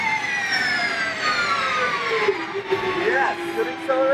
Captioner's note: car whirring